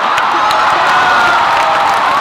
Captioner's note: audience shouts; applause